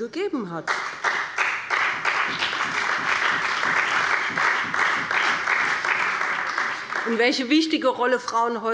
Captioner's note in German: Beifall bei dem BÜNDNIS 90/DIE GRÜNEN und der CDU